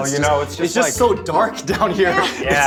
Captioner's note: laughs